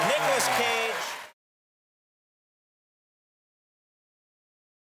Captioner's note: audience cheering